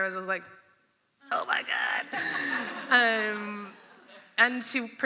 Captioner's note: laughter